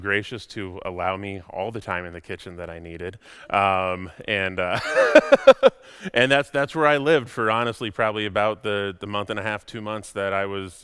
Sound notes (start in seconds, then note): 4.8 laughs